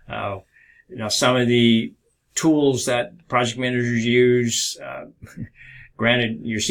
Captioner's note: chuckles